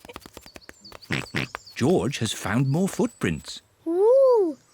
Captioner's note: mummy and daddy pig laugh; oinks